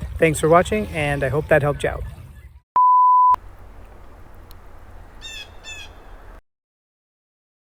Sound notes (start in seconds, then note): 5.0 loud bird